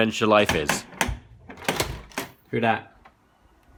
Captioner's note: knocking